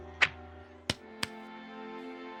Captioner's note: pat pat